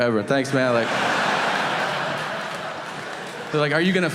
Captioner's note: audience laughing